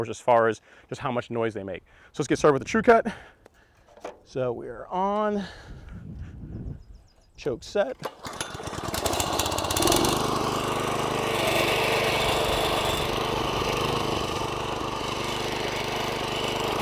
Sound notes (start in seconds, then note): 9.0 lawnmower sound